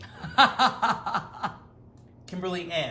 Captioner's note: Rachael laughs